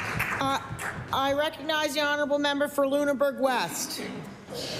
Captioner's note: applause